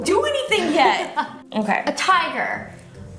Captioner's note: laughing